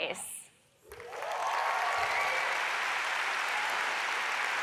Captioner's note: audience applauds